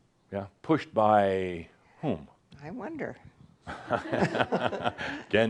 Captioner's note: they chuckle